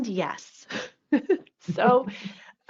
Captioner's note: laughs